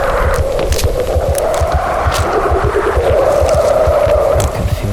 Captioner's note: creatures panicking